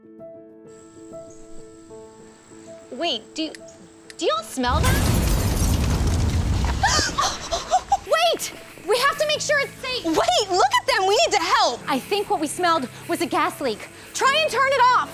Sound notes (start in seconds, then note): 4.7 explosion